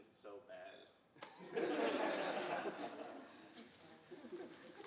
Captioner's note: audience chuckling